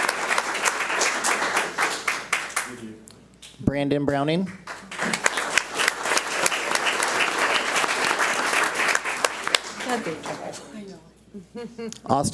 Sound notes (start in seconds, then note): 4.6 audience applauds